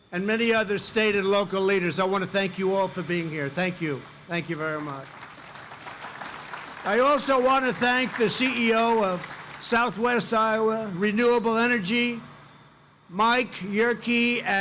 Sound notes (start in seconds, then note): 4.5 applause